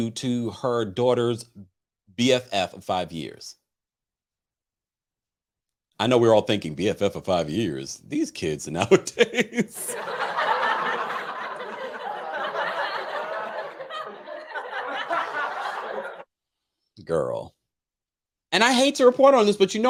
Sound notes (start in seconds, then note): 9.9 laughs; 10.5 audience laughter sound effect